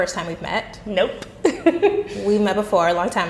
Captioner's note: chuckles